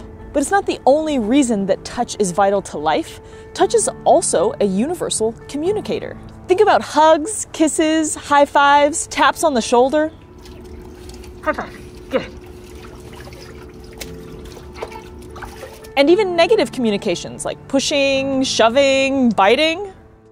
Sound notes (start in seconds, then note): 12.7 background music; 12.7 gentle water splashing noise